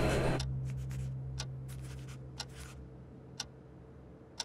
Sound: clanking/loud noises/loud ticking; quiet clock ticking/writing with pencil

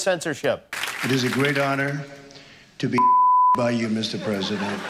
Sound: Donald Trump speaking

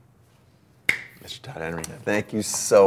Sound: snap

